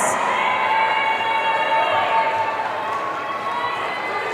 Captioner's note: audience cheering